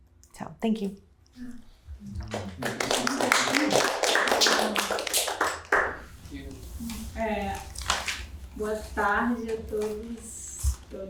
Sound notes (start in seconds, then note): 2.2 applause; 7.7 speaking portuguese